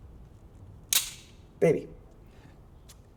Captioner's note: gun clicking